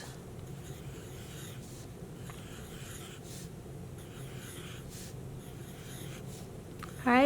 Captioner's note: pencil scratching